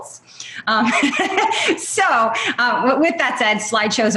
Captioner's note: laughs